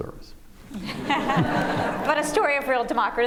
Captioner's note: laughter